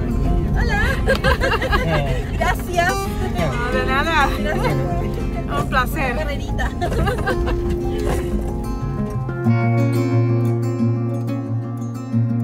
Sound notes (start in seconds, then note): 0.6 in Spanish; 6.5 laughter